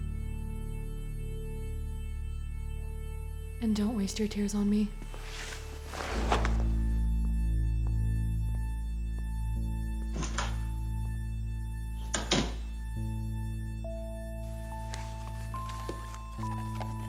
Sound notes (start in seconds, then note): 9.8 door opens and closes